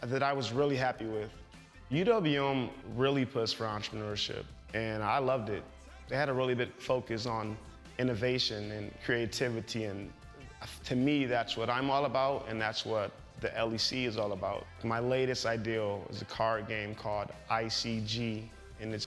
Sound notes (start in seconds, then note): none